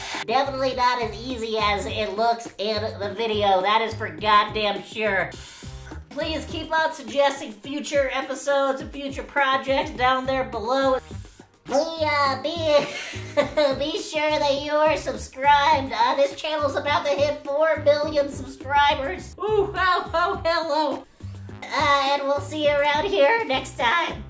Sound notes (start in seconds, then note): 11.1 inhales still more; 12.8 laughs; 21.0 silent inhaling